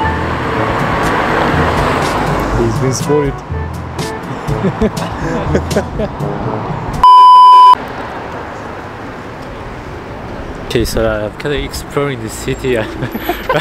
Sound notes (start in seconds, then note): 4.4 laughter; 12.8 the guy's laughing at me